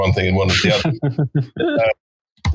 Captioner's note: laughing